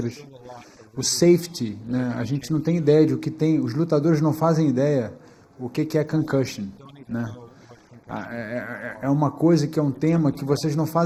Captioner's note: speaking foreign language